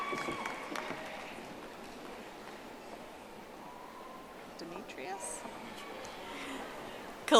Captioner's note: audience applauding